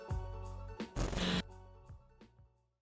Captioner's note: static